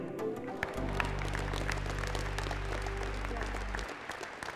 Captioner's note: all applauding